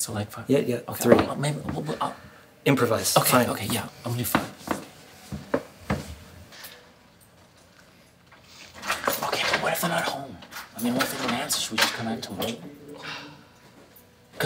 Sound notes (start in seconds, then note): 13.0 exhausted Exhale